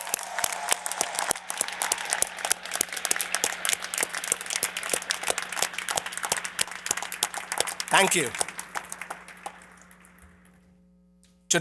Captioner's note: applause